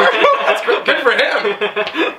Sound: laughing

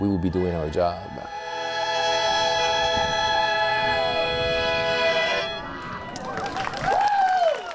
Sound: cheers and applause

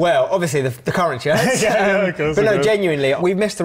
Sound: laugh

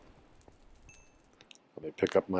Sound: xp pings

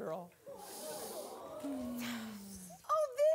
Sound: audience moaning

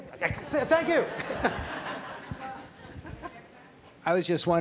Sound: laughter

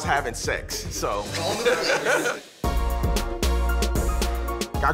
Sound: laughter

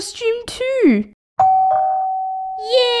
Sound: doorbell

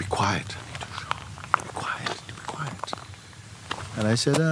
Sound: whispers

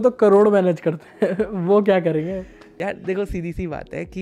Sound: laughs

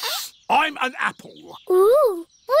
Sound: sniffs

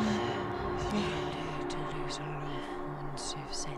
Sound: ghostly Voice

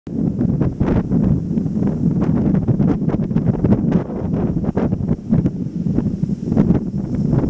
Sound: wind howling and waves crashing

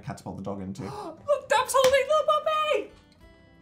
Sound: high pitched voice

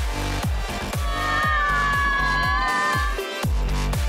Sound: screaming

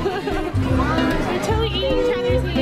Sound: laughing

